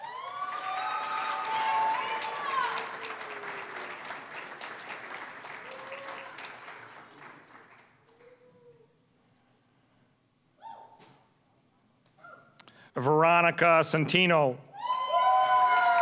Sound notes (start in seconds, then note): 0.0 applause, cheering; 3.9 applause; 14.8 applause, cheering